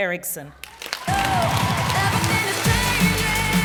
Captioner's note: applause